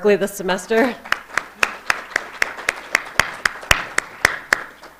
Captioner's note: applause